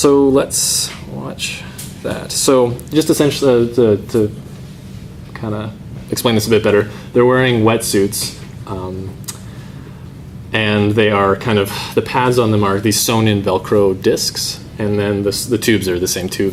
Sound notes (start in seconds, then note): none